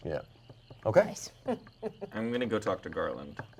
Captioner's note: chuckles